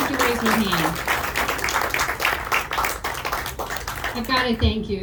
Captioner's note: audience clapping